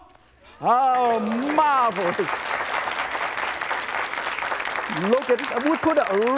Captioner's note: audience claps